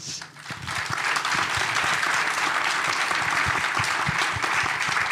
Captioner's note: applause